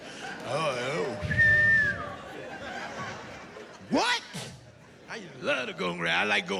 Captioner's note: whistles